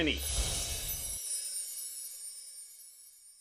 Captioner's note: chimes chime